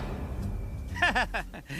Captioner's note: laughing